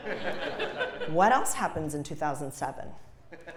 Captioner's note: laugh